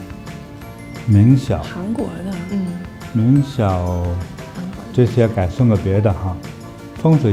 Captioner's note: Korean